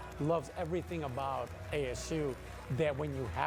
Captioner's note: cheers